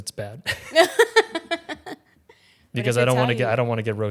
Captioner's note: both laughing